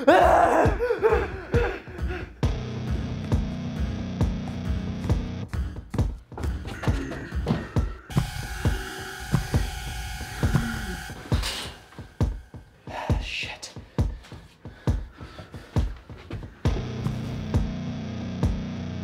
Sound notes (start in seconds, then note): 0.0 Dave howls; 13.6 gasps; 14.1 dramatic music